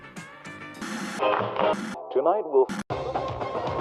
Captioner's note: TV static